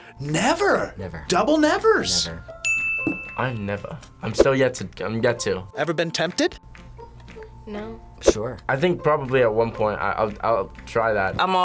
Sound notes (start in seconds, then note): 2.6 bell rings